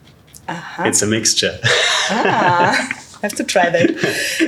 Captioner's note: laughs